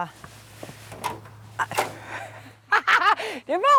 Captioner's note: clicking, laughing